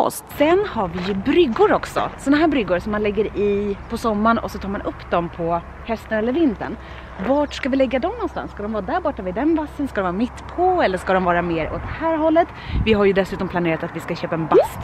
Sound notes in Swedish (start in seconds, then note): none